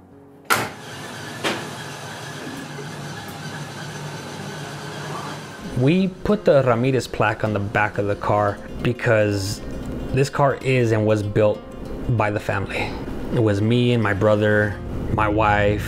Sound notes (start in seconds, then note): 0.5 engine starts; 1.3 car door shuts